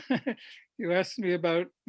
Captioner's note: laughs